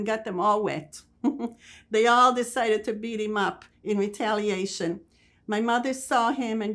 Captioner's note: laughing